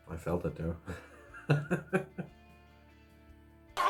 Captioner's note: laughs